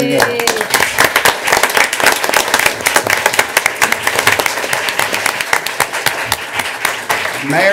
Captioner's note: applause